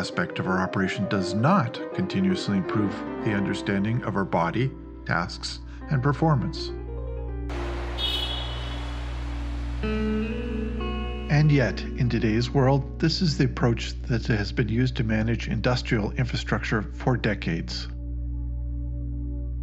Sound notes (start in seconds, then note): 7.5 light rail train horn